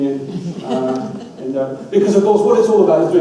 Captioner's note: audience laughs